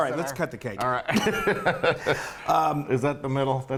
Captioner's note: laugh